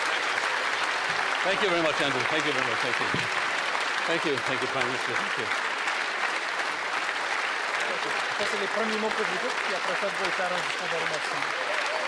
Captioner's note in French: applaudissements